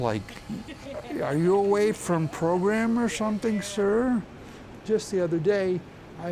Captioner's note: patronizing voice